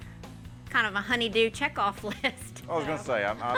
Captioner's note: laughs